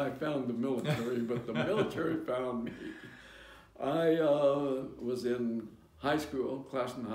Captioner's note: laughter